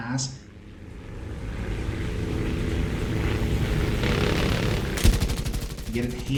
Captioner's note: aircraft Engines ,Gunfire, Flying Sounds